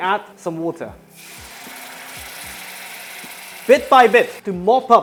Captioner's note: sizzling sound